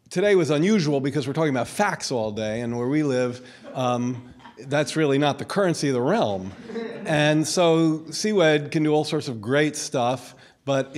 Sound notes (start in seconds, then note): 6.5 light laughter